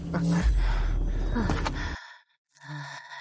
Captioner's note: groans